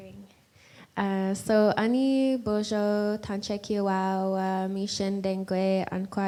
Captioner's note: in Indigenous language